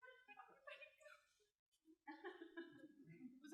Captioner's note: giggling